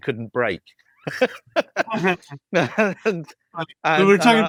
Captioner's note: laughs